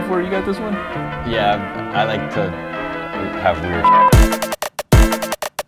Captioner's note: upbeat music; beep